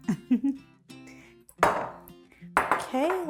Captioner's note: chuckling